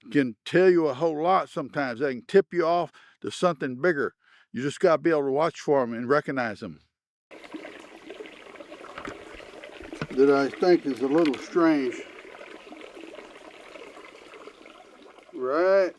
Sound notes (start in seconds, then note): 7.3 water babbling